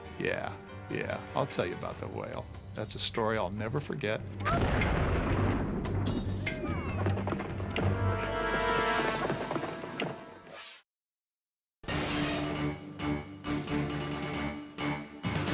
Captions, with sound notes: Yeah. Yeah, I'll tell you about the whale. That's a story I'll never forget. (whale explodes) (crowd cheers) (blubber pounding) (air whooshes) (bright dramatic music)